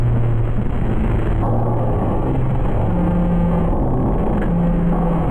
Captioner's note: eerie electronic music; static crackling; soft eerie music